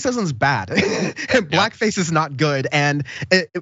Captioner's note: laugh